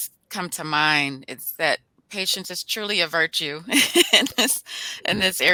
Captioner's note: laughs